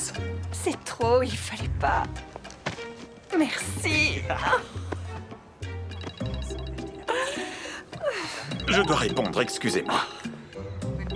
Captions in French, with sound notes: - C'est trop. Merci à vous ! (rire) (sonnerie de téléphone) - Oh, je dois prendre ça, excusez-moi.